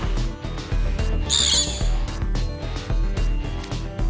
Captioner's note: screech